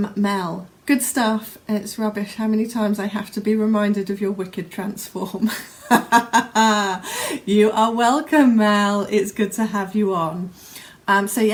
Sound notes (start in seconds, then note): 5.5 laughs